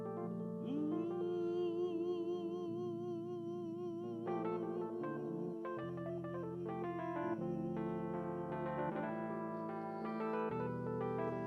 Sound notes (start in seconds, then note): 0.6 singer humming